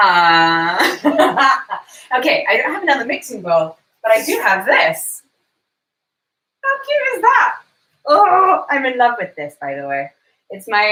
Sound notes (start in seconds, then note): 0.0 laughs; 8.5 groans